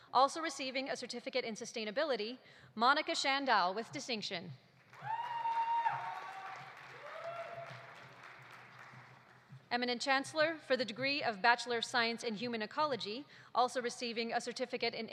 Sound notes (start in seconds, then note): 4.8 audience applauding; 4.9 audience cheering